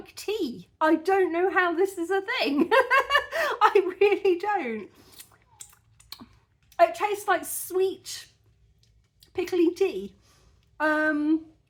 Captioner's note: laughing